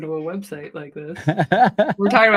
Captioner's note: laughter